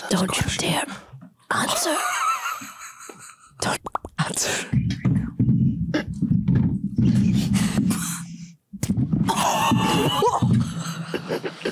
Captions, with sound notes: Don't you dare answer. (all laughing) - Okay here we go. (cucumber thumping) (all laughing)